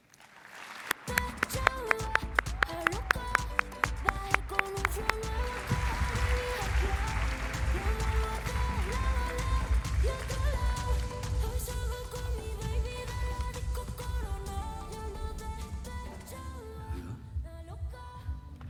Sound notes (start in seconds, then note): 1.8 applause; 4.8 upbeat music